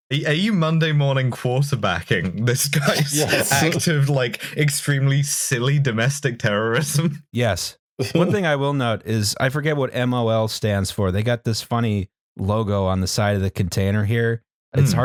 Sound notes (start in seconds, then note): 2.2 laughing